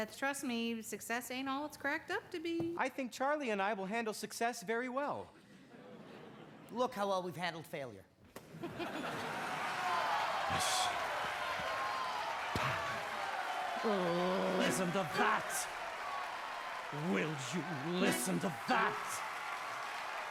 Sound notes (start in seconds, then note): 8.6 crowd cheering and applauding; 10.3 stammers; 11.5 imitates cork popping; 14.7 singing; 16.9 hopeful music playing